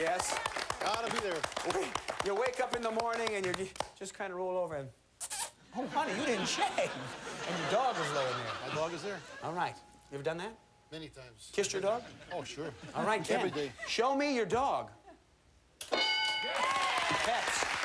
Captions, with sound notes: When you wake up in the morning and you just kinda roll over and-- [smooch] Oh honey, you didn't shave. And the dog is laying there. My dog is there. All right. You ever done that? Many times. Kissed your dog? Oh sure. All right, Ken, show me your dog.